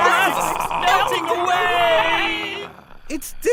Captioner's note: roars